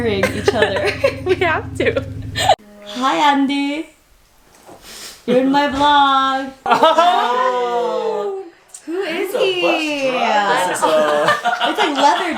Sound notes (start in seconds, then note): 0.0 laughing; 6.8 cheering; 10.7 laughing